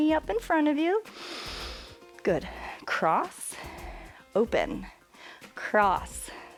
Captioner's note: inhales